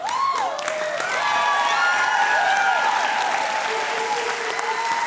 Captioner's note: cheering and applause